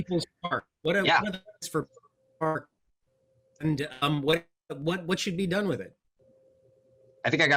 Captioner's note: mic cuts off